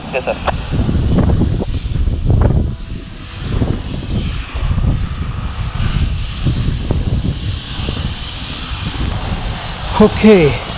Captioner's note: sound of wind